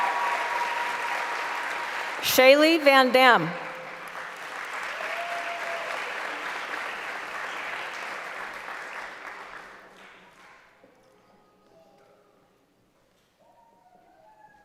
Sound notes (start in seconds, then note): 0.7 applause; 8.4 applause